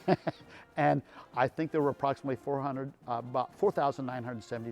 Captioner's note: laughing